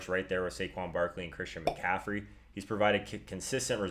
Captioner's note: pop